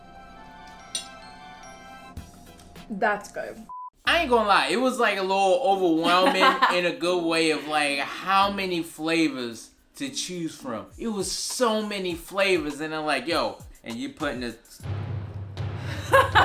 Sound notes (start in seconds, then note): 0.0 sober music; 5.9 laughs; 14.8 dramatic music